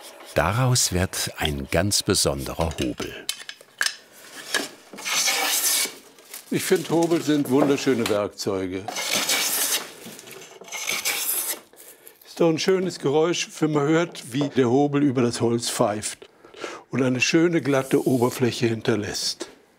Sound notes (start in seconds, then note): 2.7 clacking; 9.1 bright grinding noises